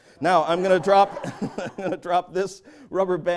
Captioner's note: laughter